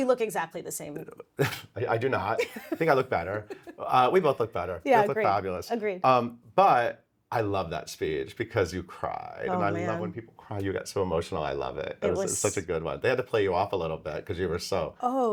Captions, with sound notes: - Do we look exactly the same? - (chuckles) I do not. (laughs) I think I look better. We both look better. - Yeah. Agree. - Both look fabulous. - Agree. - But I love that speech because you cried. - Oh, man. - And I love when people cry. You get so emotional. I love it. - It was- - It was such a good one. They had to play you off a little bit 'cause you were so-